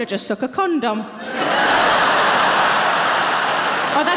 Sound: audience laughing

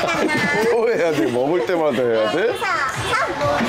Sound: laughing

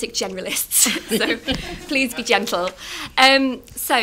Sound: laughter

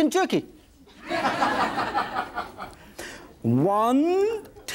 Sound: audience laughs

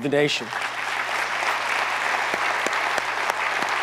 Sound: audience applauds

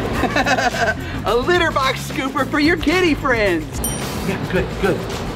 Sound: laughs

